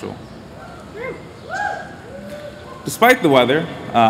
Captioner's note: cheers